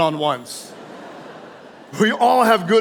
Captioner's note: audience laughing